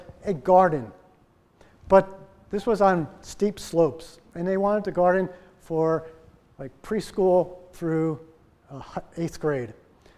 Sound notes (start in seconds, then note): none